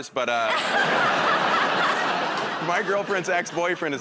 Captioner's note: laughter